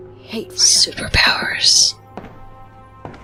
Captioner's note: whispers